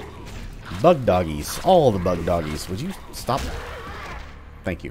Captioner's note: thwack